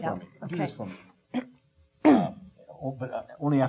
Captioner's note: clearing throat